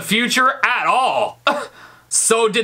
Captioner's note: scoffs